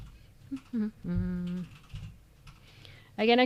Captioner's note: humming